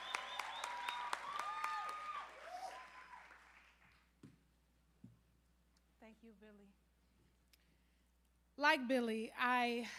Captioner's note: applause